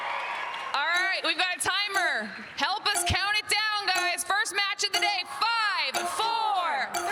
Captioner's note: cheers and applause